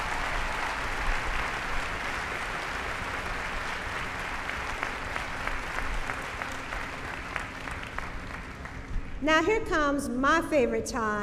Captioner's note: cheering